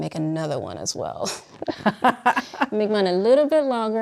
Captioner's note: both laughing